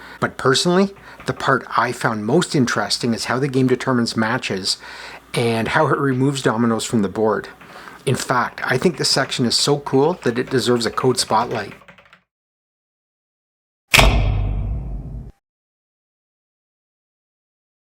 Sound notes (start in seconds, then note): 13.9 large light 'thunking' on